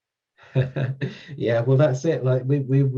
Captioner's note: laughs